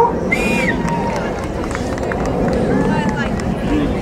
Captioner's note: crowd cheering